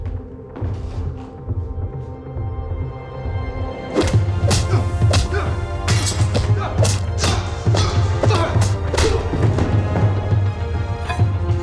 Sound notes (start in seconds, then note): 4.3 grunts